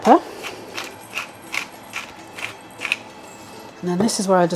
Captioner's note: pepper mill grinding